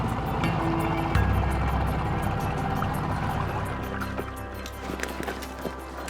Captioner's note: boat engine puttering; pensive music continues